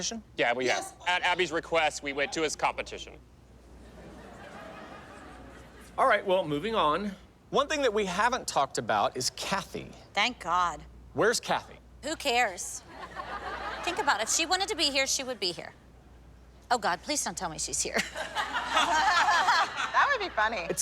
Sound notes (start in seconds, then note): 3.7 audience laughter; 12.9 laughter; 17.9 laughter